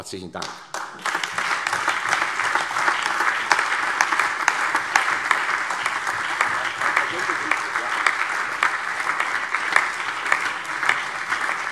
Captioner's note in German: Anhaltender allgemeiner Beifall